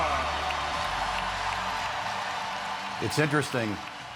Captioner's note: fans cheering